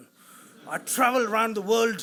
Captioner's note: audience laughs